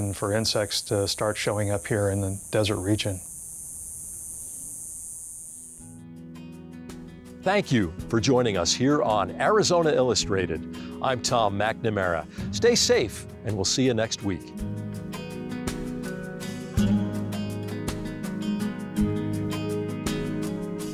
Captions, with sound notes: for insects to start showing up here in the desert region. (cicadas buzzing) (soft music begins) - Thank you for joining us here on Arizona Illustrated. I'm Tom McNamara. Stay safe and we'll see you next week. (soft music continues)